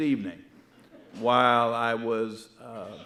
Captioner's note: audience laughing